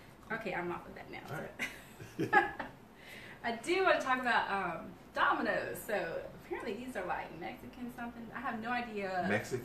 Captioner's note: laughter